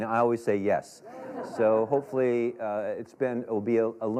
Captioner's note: laughter